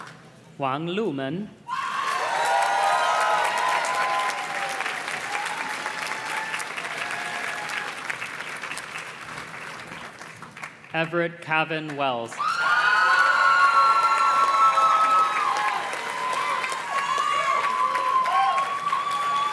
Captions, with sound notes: Juan Lumen. (audience cheers and claps) Everett Kavin Wells. (audience cheers and claps)